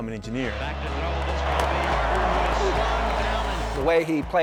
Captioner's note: sound of pads hitting, crowd cheering